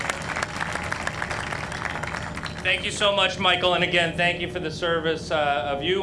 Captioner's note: applause